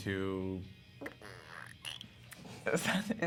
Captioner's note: farting sound